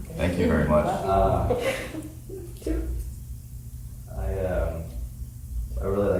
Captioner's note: people chuckling; crying